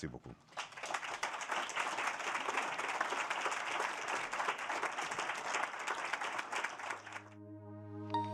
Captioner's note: applause